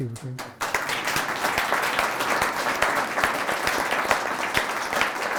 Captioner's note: applause